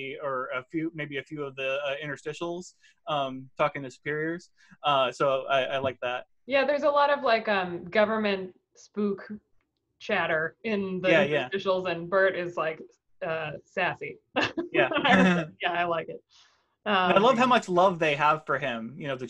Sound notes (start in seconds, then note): 14.4 chuckles; 14.4 laughs